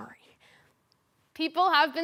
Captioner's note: soft breathing